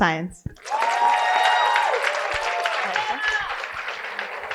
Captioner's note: cheering and applause